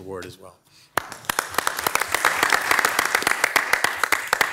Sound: audience clapping

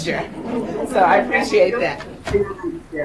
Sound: chuckles

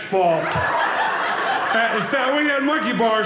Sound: audience laughing

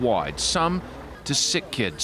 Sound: speaking Foreign Language

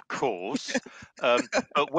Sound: chuckles

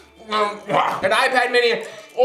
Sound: retches

